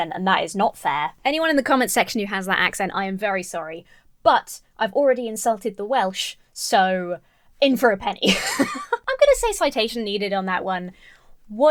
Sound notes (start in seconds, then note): 8.3 laughs